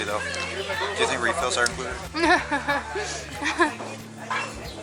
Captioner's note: laughter